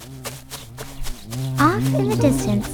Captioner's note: footsteps shuffle; birds chirping